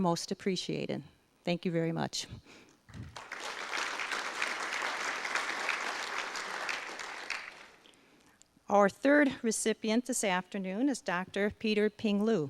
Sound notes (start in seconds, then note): 3.0 audience applause